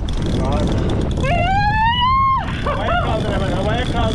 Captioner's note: screams